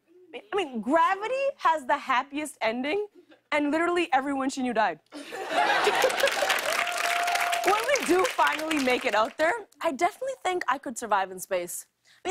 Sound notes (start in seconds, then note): 5.1 laughter; 5.8 applause